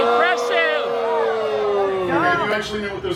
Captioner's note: guests gasping loudly